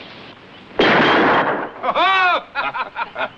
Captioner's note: gun firing; all laughing